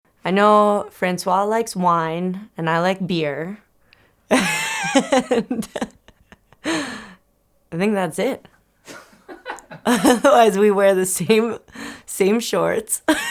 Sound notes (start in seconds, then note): 4.3 Courtney laughs; 8.9 bystander laughs